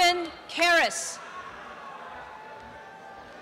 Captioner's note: applause and cheering